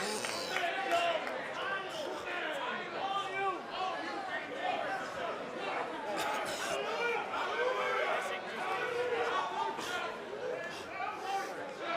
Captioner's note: coughing